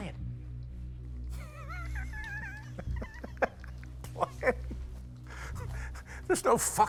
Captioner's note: laughs